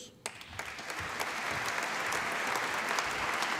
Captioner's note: applause